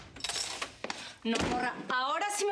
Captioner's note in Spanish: sonido al abrir la puerta